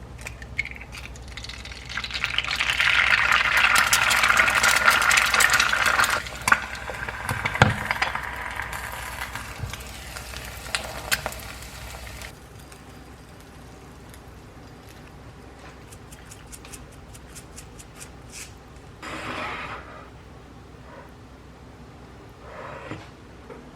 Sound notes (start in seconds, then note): 2.5 it's always nice to hear the sound of grilling eggs